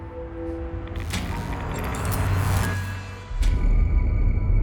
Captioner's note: electronic whirring